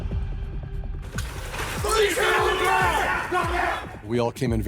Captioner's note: indistinct shouting